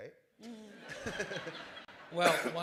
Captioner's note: laughter